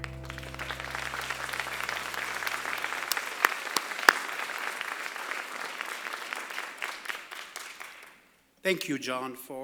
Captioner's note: applause